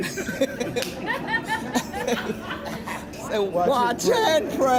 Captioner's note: everyone laughs